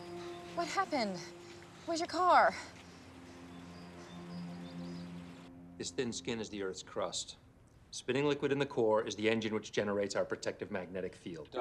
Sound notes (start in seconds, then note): 3.3 bird chirp